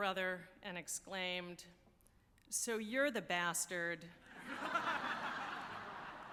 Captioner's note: laughing